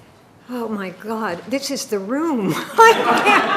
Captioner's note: laughing; audience laughing